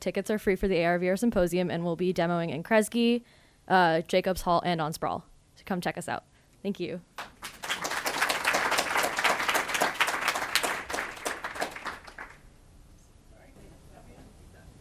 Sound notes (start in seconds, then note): 7.2 audience applauds